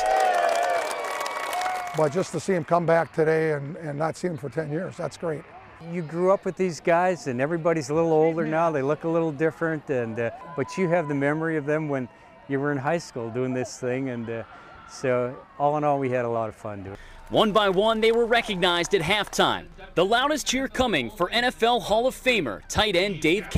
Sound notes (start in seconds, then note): 3.4 applause